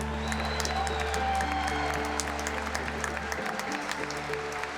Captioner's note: cheers and applause